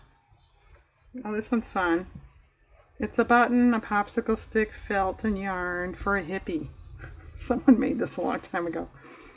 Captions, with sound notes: oh this one's fun, it's a button, a popsicle stick, felt, and yarn for a hippie (laughs), someone made this a long time ago